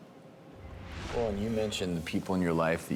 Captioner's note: swoosh